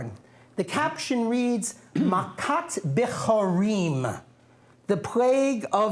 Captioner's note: non-english speech